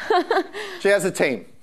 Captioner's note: laughing